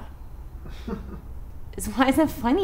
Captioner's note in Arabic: يضحك عالم النفس